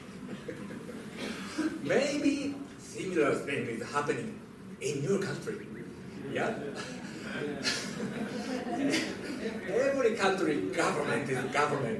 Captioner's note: laughter; laughter